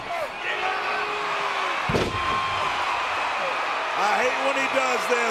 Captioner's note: audience cheering